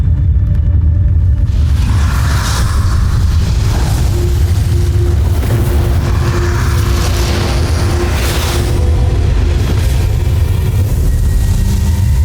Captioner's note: molten surge rumbles; mystical music playing; frantic music playing; evil energy whooshing